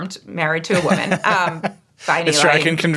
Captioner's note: laughing